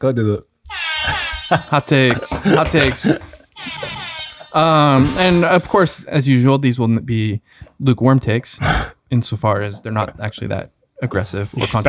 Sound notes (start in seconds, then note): 0.8 laughs; 0.9 air horn blares; 3.6 air horn blares